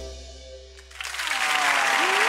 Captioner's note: applause